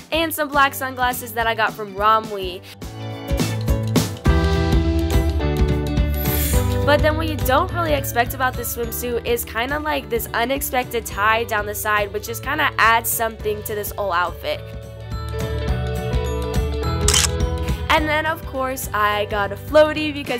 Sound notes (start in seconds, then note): 17.0 camera shutter clicks